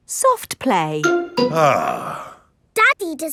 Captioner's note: sighs